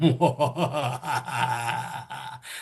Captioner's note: scary Laugh